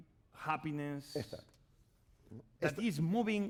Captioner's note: speaking spanish